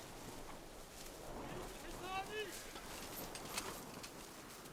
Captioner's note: man shouting in arabic